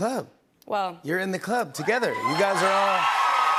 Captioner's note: cheers and applause